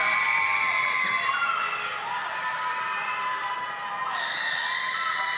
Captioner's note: audience applauding